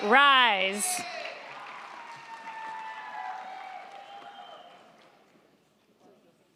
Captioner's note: crowd cheering; crowd clapping